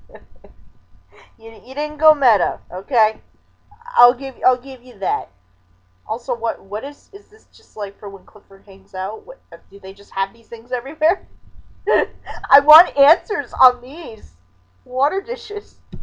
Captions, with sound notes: (chuckling) Y-Y'didn't go meta, okay? I'll give- I'll give you that. Also, what- what is- is this just like for when Clifford hangs out? (stammering) Do they just have these things everywhere? (laughing) I want answers on these...water dishes!!